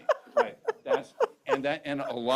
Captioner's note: laughs